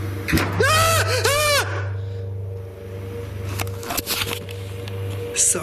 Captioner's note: bang followed by screaming